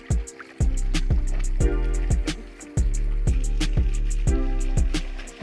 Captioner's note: water rushing